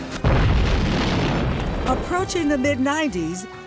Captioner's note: explosion